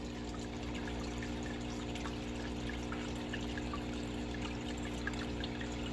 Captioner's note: water and motor running